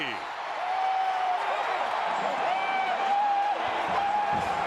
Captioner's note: crowd noise